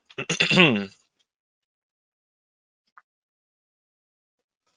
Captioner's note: clears throat